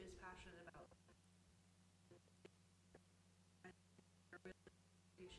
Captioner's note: stuttering audio